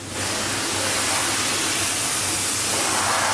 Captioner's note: air spraying